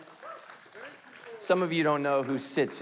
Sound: light applauding

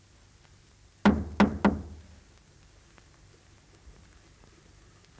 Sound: knocking on door

